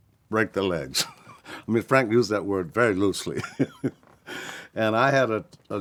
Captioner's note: laughs